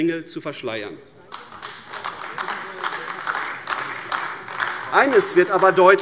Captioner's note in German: Beifall AfD